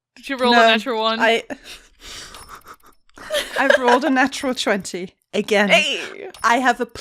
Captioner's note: laughs